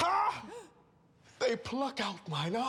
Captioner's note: gasps